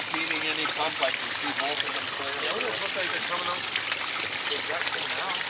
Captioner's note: water rushing